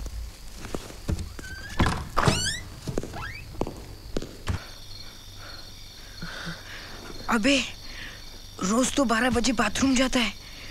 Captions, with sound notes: (Door creaks) Hey...He goes to the toilet at 12 every day.